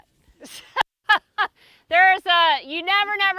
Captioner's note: laughing